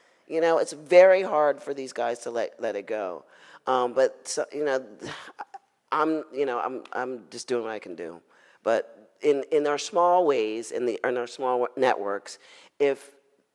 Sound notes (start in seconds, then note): none